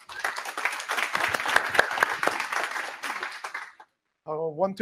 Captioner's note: applause